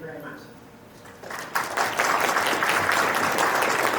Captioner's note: audience applauds